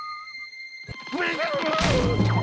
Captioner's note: shouting